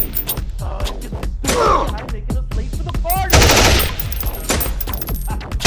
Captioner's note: guns banging; people shouting